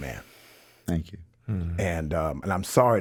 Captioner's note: exhales sharply